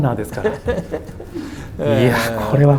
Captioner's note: laughs